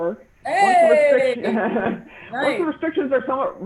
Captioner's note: cheering